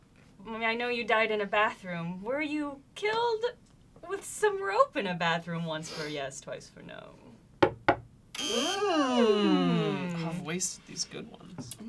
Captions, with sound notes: I mean, I know you died in a bathroom. Were you killed with some rope in a bathroom? Once for yes, twice for no. (knocks twice) (buzzing) - I've wasted these good ones.